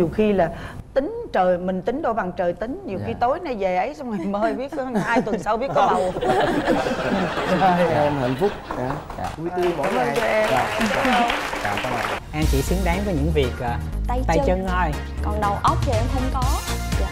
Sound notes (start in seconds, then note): 6.5 laughing; 10.2 clapping